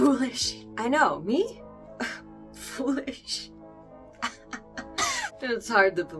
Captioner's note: scoffs; wheeze